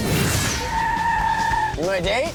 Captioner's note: screeching tires